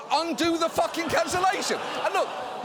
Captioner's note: audience groaning